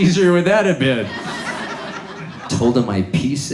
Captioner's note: audience laughs